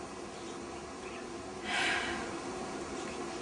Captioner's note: sigh